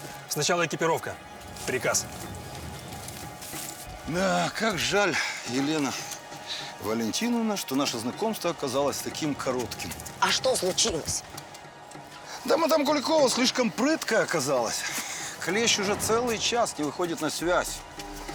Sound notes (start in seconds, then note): none